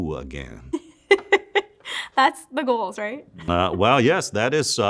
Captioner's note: laughs